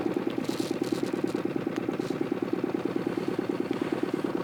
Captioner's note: boat motor humming